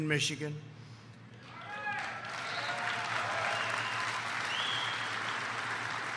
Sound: applause

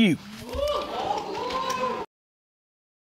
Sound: audience cheering

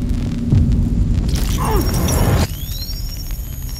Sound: grunt

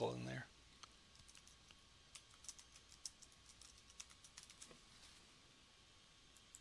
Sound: typing sounds

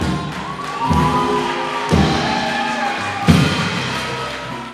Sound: applause

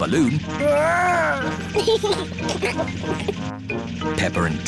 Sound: giggles

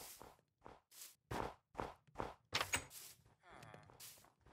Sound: footsteps

